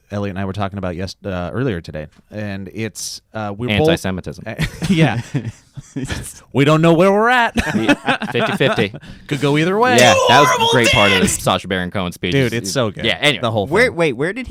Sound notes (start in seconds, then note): 7.6 laughs; 9.8 shouts